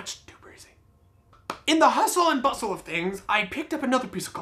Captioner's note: claps